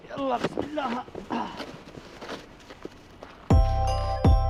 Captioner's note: making uncomfortable noises